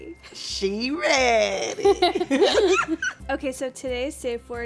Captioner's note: both laugh